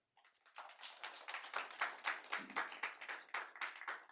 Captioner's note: audience applauds